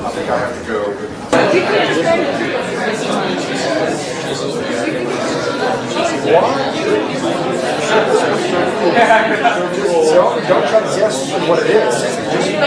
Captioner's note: students talking